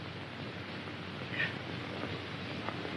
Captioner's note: gasp